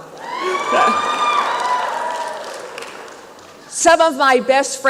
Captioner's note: applause and cheering